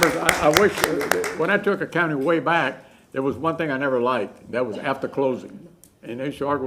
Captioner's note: applause